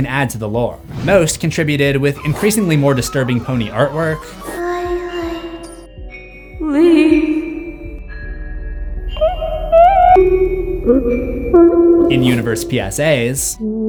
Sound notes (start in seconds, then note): 8.9 whining noises